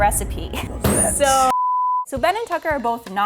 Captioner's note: smacks the table; beep